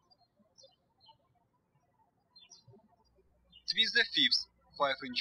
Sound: birds chirping

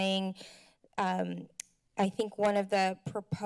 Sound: clicks tongue

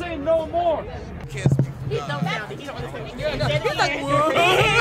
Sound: crowd chattering

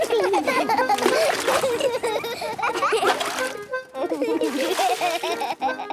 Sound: excited laughter

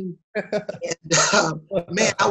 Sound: laughs

